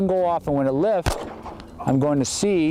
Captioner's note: gunshots cracking